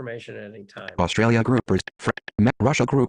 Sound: stammers

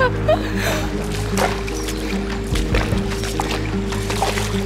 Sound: laughter; water splashing

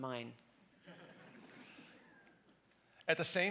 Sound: audience laughs

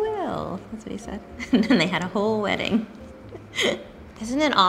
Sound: chuckles

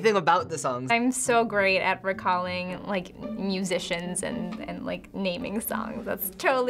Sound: wryly

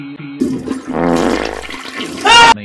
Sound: farting in the toilet

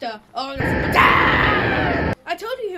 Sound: swirling tornado

